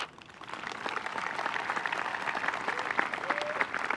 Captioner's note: applause